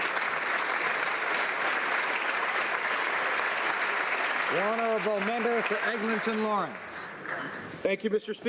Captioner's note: applause